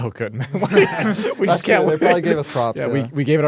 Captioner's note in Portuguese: risos